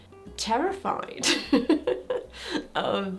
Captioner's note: person laughing